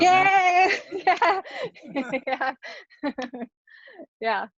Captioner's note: all laughing